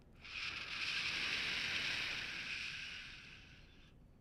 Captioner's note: exhaling